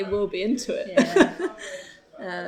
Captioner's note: laughs